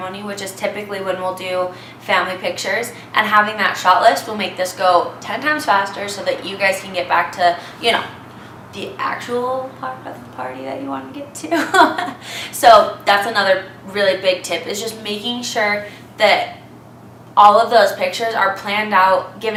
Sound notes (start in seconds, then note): 11.5 laughs